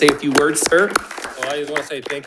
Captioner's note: attendees clapping